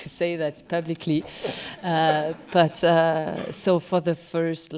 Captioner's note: laughter